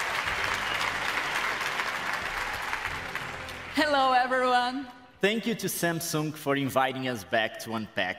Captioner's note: applause